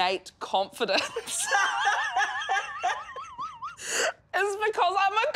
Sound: laughs loudly

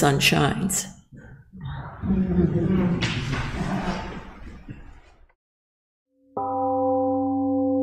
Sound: temple gong rings and fades

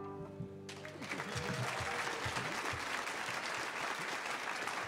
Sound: audience cheering

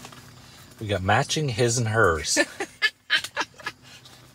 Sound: laughing

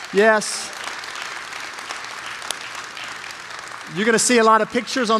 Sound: congregation applauding

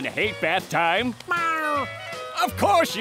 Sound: meowing

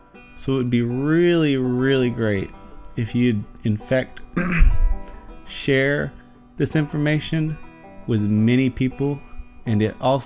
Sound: cough

